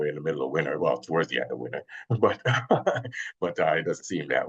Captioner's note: chuckles